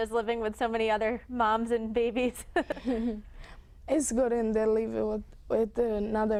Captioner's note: laughter